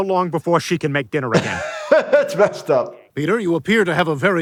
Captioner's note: laughing